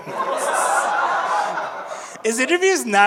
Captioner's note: audience laughing